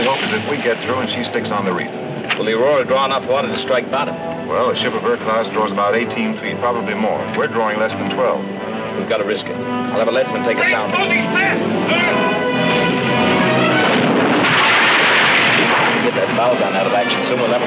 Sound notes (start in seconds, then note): 3.4 tense music; 12.8 adventurous music; 13.6 cannon firing